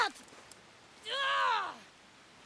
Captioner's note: scream